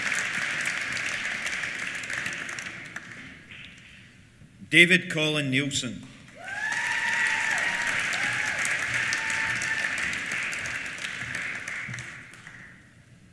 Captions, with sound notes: David Colin Neilson. (CHEERS) (APPLAUSE)